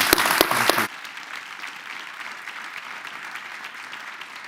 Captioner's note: applause